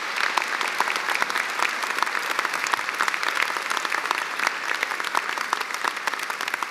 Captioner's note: applause